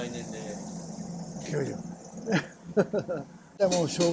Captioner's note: laugh